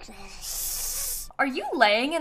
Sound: baby hissing

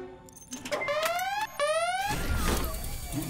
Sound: alarm goes off

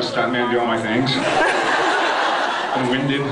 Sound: laughs

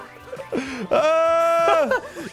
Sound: gasps

